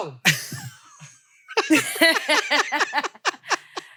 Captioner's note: both laugh